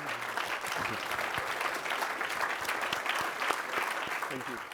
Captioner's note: applause